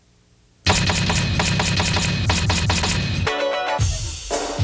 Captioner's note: typewriter banging; upbeat music